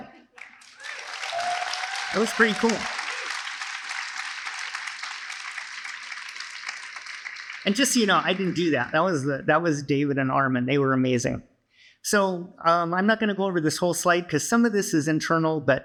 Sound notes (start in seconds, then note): 2.0 applause; 2.0 cheering